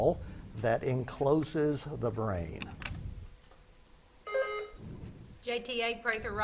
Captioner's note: buzzer beeps